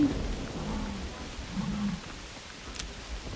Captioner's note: buffalo roars